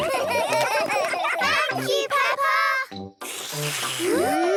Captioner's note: all slurping